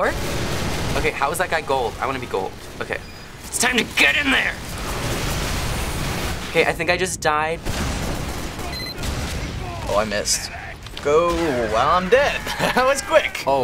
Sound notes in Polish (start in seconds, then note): 8.9 podmuch rakiety